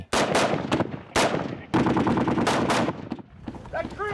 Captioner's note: gunfire